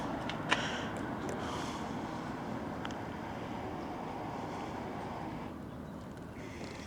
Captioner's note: exhales softly